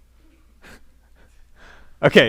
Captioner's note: chuckling